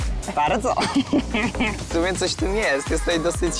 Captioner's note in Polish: śmiech